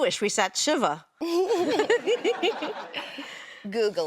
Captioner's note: laughs